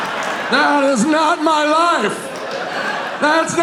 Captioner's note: audience laughing